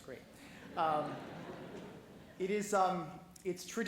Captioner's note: laughing